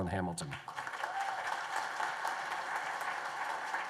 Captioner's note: applause